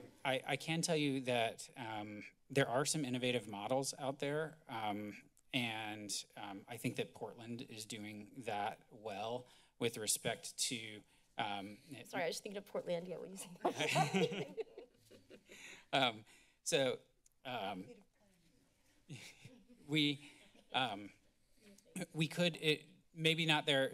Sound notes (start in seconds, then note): 13.6 laughter; 19.1 laughs